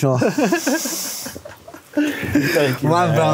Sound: both laugh

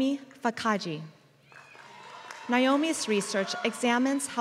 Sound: applause

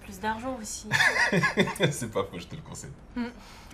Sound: laughs

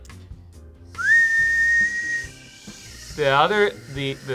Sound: whistles

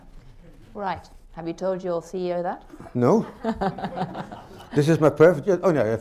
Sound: laughter

